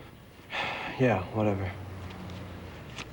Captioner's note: sighs